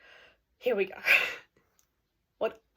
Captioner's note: deep breath